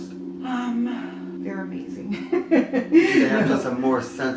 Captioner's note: laughing